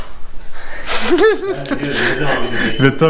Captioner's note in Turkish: Gülüşmeler